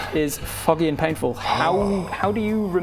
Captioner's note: hrrrgggh